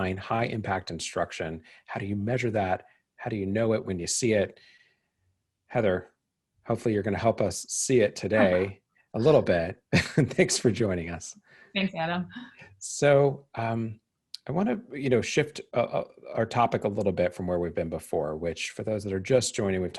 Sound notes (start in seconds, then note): 9.9 laughs